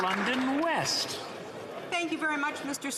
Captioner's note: some Applause